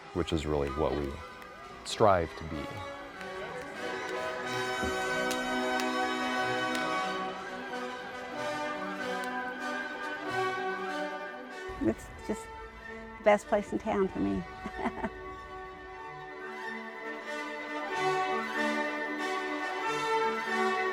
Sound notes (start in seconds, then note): 3.6 triumphant music; 14.4 laughs; 16.8 triumphant music